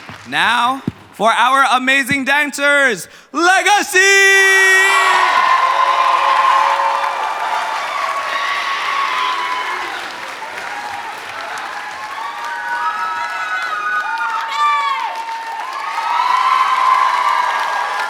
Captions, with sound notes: Now for our amazing dancers, Legacy! [Applause]